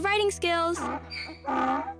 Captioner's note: donkey brays